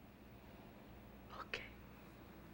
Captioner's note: whispers